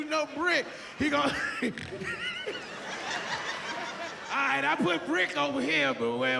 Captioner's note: laughs